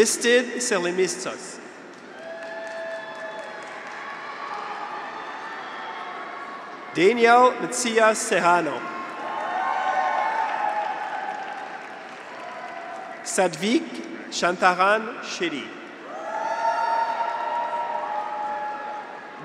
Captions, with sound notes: Aristides Serlemitsos. (graduates cheer) (audience applauds) Danielle Macias Serrano. (graduates cheer) (audience applauds) Sathvik Shantaram Shetty. (graduates cheer) (audience applauds)